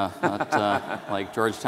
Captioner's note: all laugh